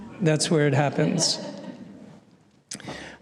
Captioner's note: laughter